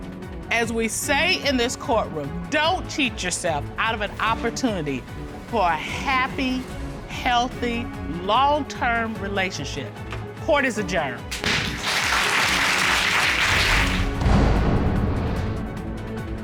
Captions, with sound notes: As we say in this courtroom, don't cheat yourself out of an opportunity for a happy, healthy, long-term relationship. -Court is adjourned. -[dramatic music playing] [applause]